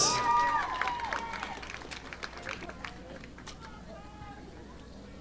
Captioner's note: audience applauding